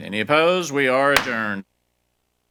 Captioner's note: gavel pounds